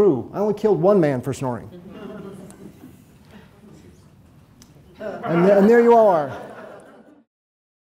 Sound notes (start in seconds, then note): 1.8 audience chuckles